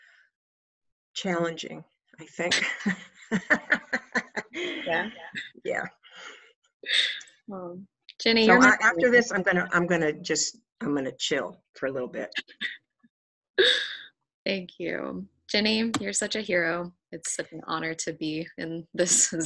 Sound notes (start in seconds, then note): 2.5 laughs